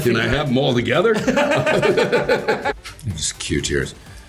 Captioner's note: laughing